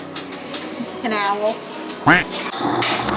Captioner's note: duck quack sound